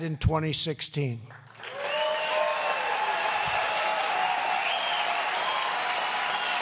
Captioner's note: applause